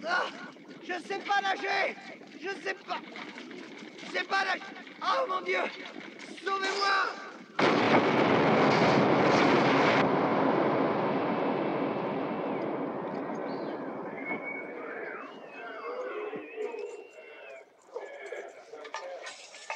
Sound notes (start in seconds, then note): 0.1 gasping; 7.7 explosion; 13.2 men whistling